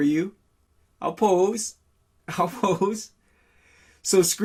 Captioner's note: laughing